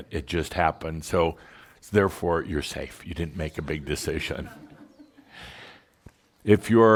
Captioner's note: a few giggles